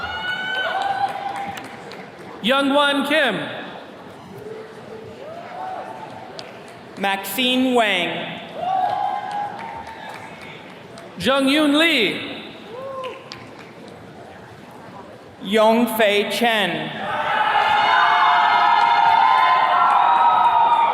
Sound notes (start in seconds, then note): 0.0 attendees cheers and claps; 8.5 attendees cheering; 12.7 attendee cheering; 17.0 attendees cheering